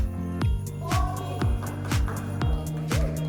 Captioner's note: clapping